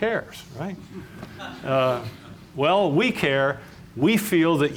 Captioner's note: laughter